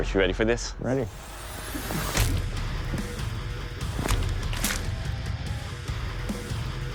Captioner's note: impact sounds